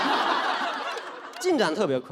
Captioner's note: audience laughs